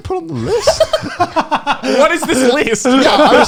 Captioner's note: laughing